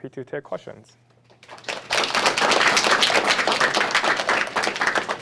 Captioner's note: applause